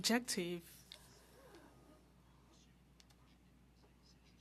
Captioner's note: speaking French